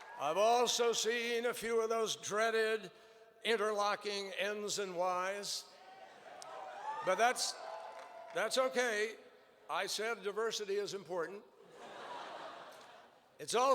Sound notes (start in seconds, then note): 5.8 cheers; 11.6 laughter